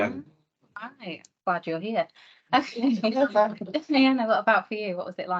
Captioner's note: panel laughs